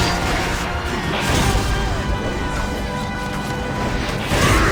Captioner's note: intense music continues; lightning sparks